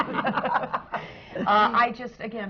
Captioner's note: laughter